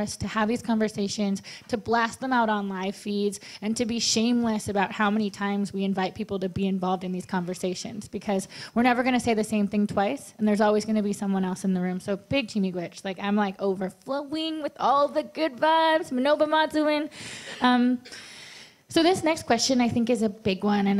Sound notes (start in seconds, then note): 16.1 speaking Ojibwe; 17.4 in English